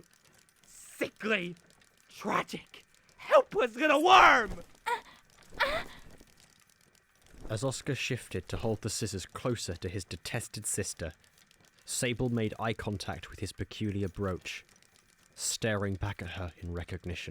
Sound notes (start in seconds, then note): 5.5 etta yelps